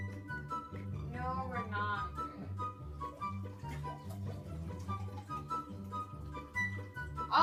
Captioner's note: pouring noises